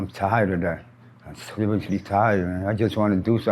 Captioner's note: birds chirp